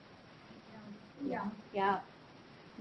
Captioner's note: woman speaking softly in background